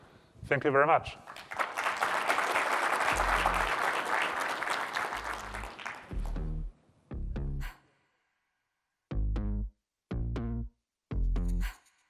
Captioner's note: applause